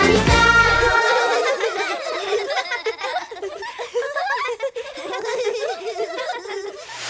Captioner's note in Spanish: Risas